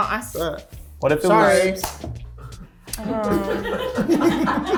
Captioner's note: cast laughing